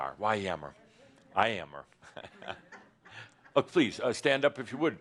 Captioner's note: he chuckles